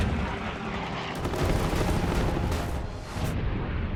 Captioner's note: gunfire